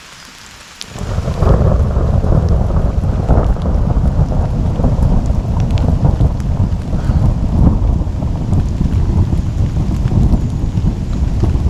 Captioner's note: thunder